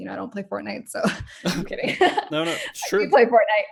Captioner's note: laughs